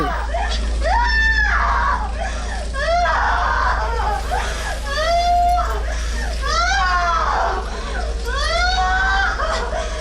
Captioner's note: sobbing and screaming continues